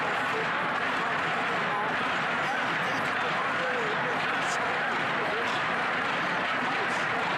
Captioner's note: chanting